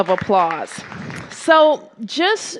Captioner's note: applause